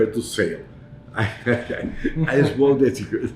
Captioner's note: laughs